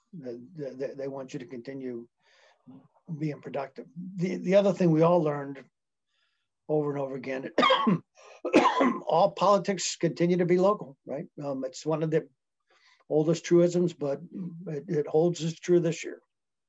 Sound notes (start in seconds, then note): 8.3 coughing